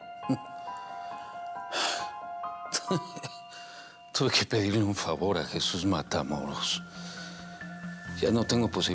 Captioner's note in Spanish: Suspiros